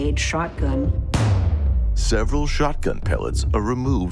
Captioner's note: gun shot